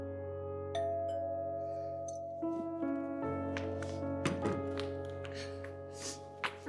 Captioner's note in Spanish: Timbre de la puerta